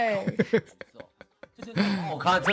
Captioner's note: laughs